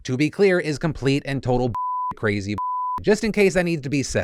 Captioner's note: beep